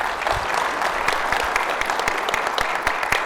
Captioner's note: audience applauding